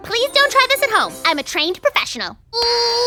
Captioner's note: effort grunts